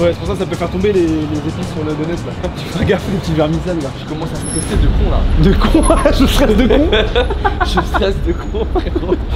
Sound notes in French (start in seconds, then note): 6.4 rires